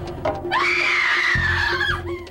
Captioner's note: screaming